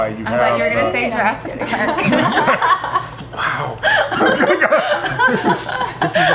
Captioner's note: everyone laughing